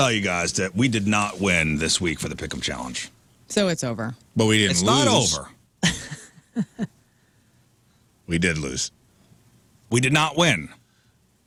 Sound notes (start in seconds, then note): 5.8 laughing